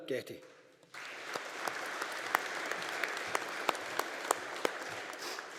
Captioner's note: audience applauding